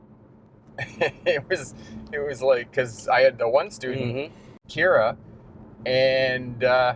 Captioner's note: laughs